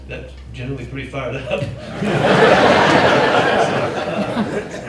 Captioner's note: crowd laughing